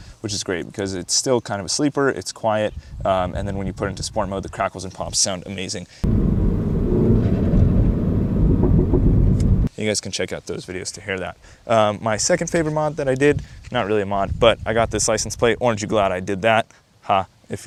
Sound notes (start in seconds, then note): 6.0 exhaust pop pop pops